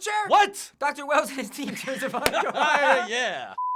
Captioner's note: laughter; cracking up; beep